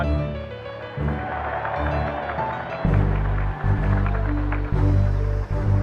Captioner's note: cheering